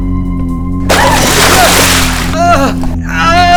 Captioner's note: glove squeaks; yelps; shouts